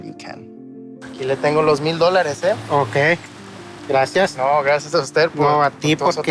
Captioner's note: speaking in Spanish; vendor speaking in Spanish